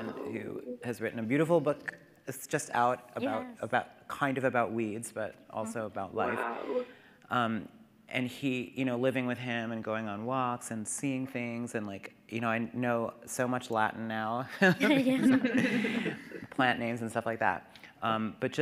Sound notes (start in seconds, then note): 14.6 participants chuckling